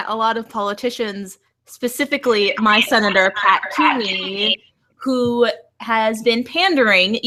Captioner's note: echoes